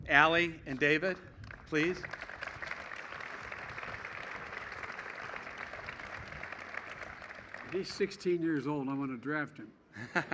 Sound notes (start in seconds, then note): 1.3 applause